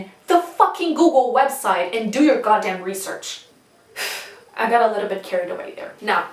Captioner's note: breathes